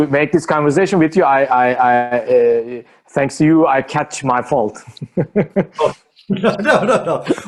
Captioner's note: chuckles